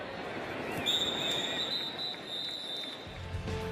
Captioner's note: whistle